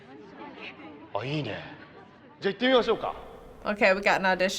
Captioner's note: man speaking Japanese